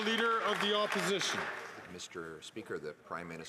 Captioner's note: applause